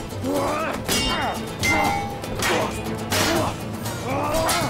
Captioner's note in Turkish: Kılıç sesleri